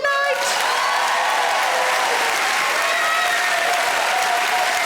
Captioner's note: audience applauds